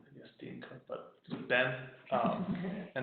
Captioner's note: laughing